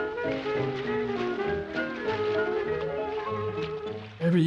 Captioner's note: water splashing